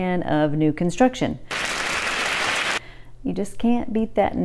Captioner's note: clapping sound